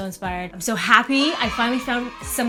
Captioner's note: cheering